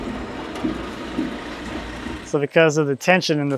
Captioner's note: engine revving